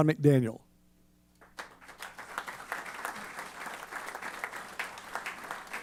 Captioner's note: applause